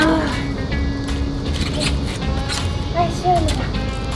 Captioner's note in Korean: 문 여는 소리